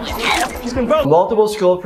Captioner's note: girl vomits